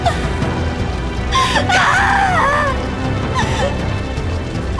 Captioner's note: crying screams